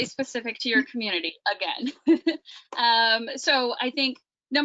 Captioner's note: giggles